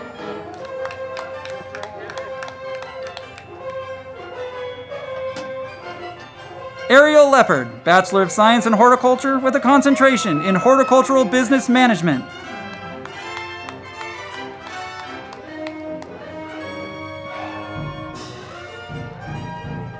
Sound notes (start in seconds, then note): 0.0 crowd clapping; 0.2 band music; 13.0 band music; 13.0 crowd clapping